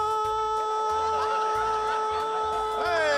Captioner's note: laughter